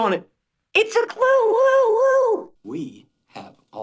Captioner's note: pitched up